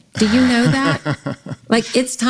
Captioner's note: laughs